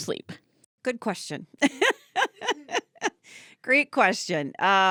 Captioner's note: laughing